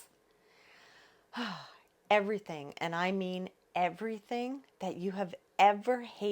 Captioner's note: sighs